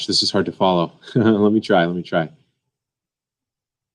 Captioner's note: laughs